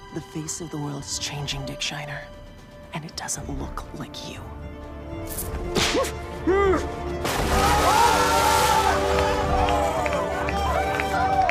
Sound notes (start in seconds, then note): 5.7 whip cracks; 7.2 water splashes; 9.3 party guests screaming; 11.2 party guests applauding